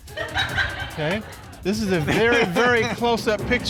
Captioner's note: audience chuckles